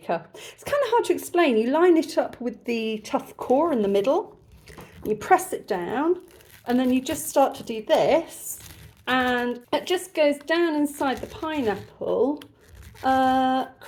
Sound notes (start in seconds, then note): none